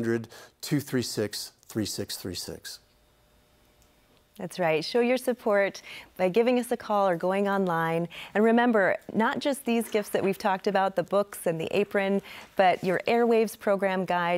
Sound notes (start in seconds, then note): none